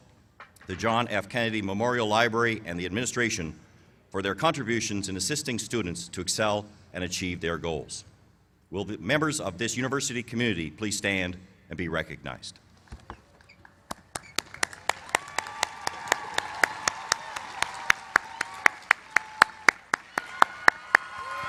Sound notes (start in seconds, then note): 13.8 applause